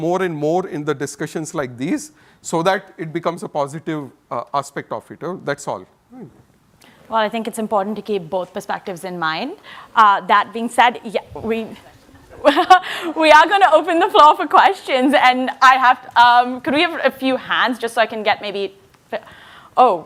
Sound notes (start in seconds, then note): 11.8 laughs